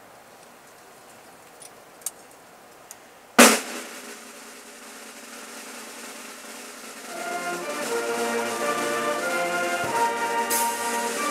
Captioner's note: cheering